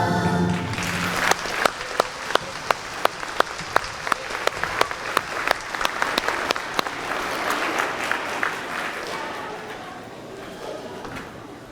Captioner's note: applause